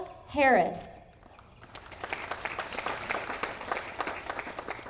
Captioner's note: audience applauding